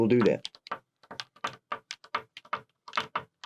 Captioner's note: pen tapping